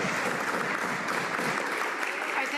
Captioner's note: some Applause